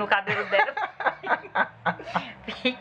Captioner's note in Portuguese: risadas